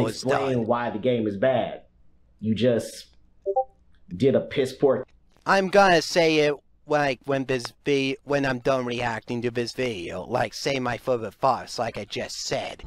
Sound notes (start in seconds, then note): 3.4 Discord ping